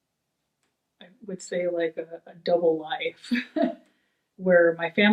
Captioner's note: chuckles